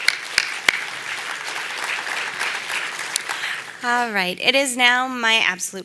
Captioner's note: applause